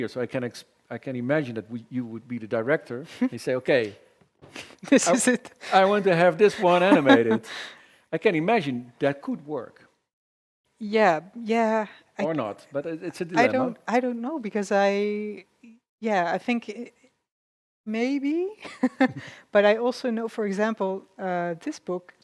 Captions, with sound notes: I can imagine that you would be the director and say, okay- -This is it. - -I want to have this one animated. I can imagine that could work or not, but it's a dilemma. -I don't know because yes, I think, maybe [chuckles]. I also know, for example, this book,